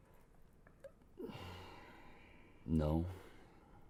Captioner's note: sighs